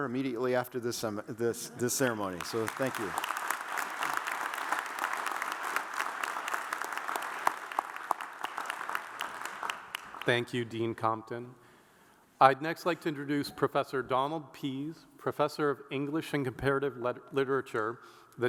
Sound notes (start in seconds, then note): 2.3 audience applauds